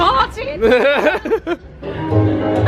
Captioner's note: laughs; warm playful music